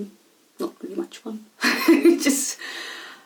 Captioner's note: laughs